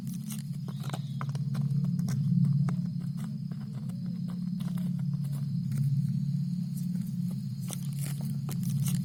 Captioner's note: footsteps approaching